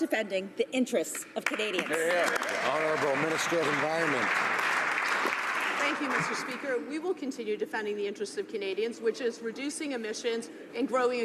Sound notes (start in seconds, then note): 5.2 some Applause